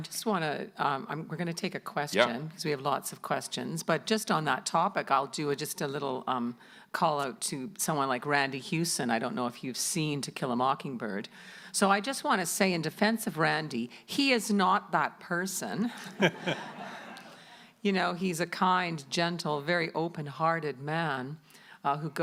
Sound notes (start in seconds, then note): 16.0 audience applauding